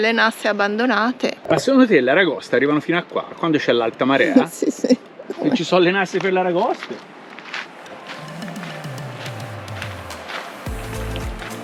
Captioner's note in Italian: Applauso